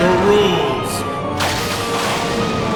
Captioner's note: deep god-like voice; lightning crashes